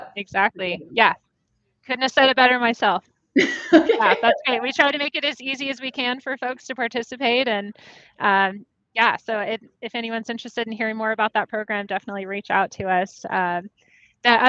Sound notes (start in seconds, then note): 3.4 laughing